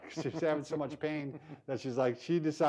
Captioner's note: both laughing